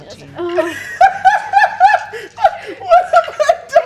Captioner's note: cackling